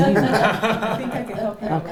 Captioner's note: laughing